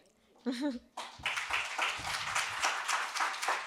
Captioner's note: applause